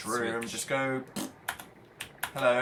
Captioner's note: rhythmic snapping; blows raspberry